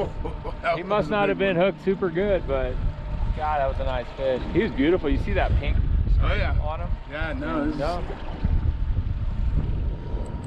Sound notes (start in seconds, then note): 8.1 boat engine idling